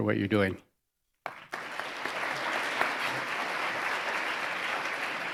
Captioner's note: audience applauding